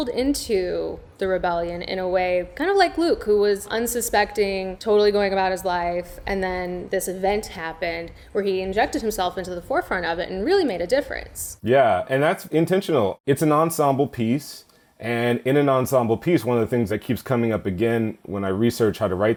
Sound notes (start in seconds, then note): none